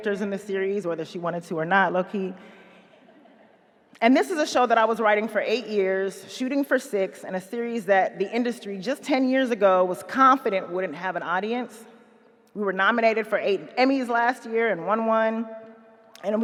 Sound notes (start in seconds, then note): 2.9 audience chuckles quietly